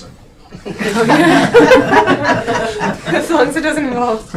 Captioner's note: laughing